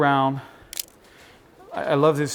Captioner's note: camera shutter clicks